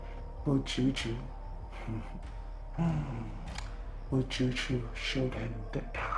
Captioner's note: chuckles